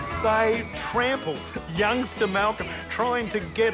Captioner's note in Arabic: تصرخ الفتيات